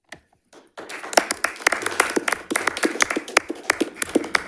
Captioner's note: audience applauds